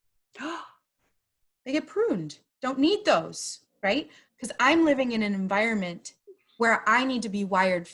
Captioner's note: gasp